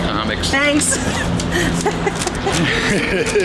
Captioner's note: laughs; laughing